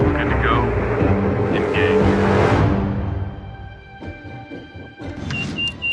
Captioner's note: person On Radio; beeping